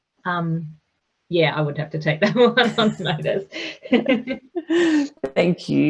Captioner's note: chuckles